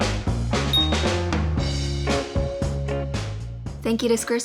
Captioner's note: star twinkling